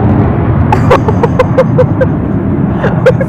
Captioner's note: laughs